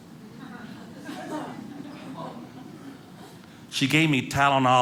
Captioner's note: audience laughing